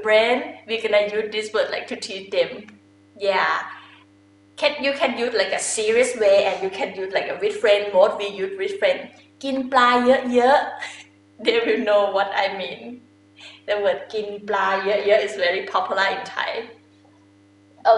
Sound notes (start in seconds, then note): 9.3 talking in foreign language